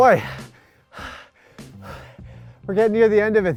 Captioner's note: gasping